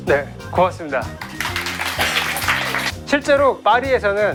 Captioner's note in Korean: 전원 박수